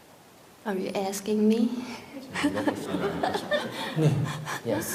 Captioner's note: questioner Laughter